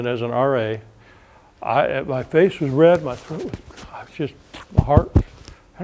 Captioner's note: beating